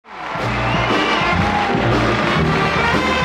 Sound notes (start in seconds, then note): 0.0 audience applause; 0.3 upbeat jazz music